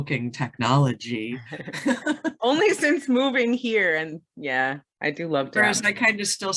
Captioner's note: both laugh